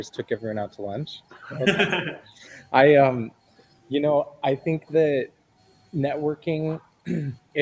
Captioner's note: laughter